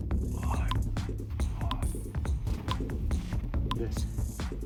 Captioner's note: person groaning